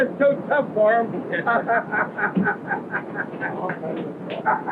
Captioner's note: laughing